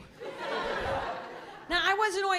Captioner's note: laughter